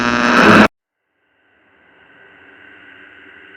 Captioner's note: radio static